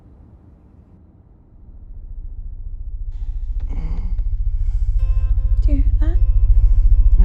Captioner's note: helicopter approaching